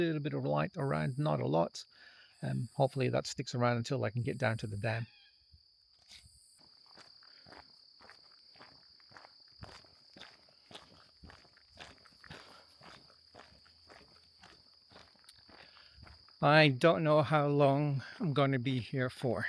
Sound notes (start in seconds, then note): 6.4 footsteps